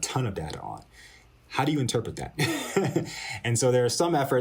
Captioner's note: laughter